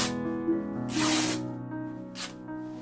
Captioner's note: satisfying ripping noises